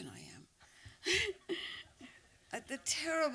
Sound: laughs

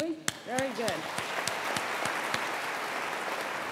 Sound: applause

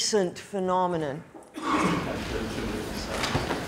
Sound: man coughing

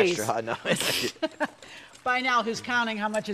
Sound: both laughing

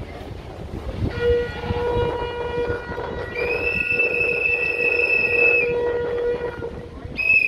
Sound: sound of whistles!

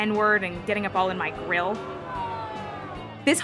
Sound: angry crowd

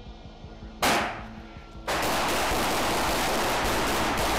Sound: gun shots

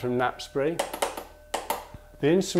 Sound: the tapper clicks with the 2-1 pattern

